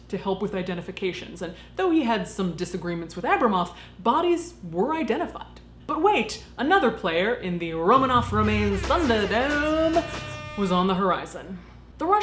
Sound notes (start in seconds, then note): 8.0 electronic buzzing